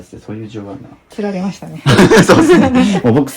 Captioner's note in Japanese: 笑い